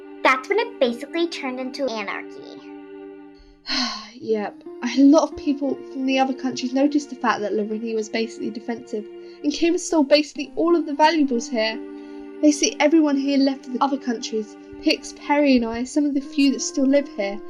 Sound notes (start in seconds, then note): 3.7 sigh